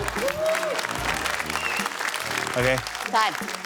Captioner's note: cheering, applause